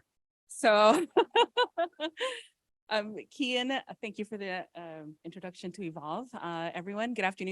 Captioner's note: laughs